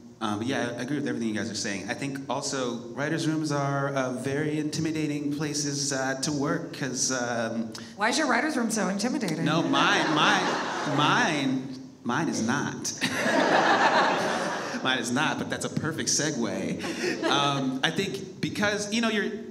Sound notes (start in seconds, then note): 9.4 audience laughs; 13.0 all laugh